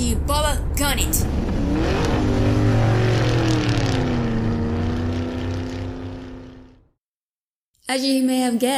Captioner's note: car speeds away